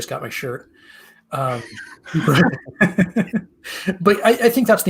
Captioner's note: laughter